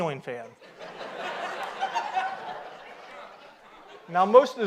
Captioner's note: audience laughs